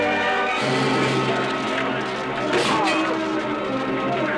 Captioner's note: grunting